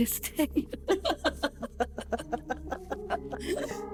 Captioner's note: both laugh